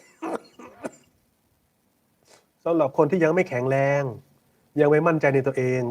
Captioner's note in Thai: เสียงหัวเราะ; เสียงสูดหายใจ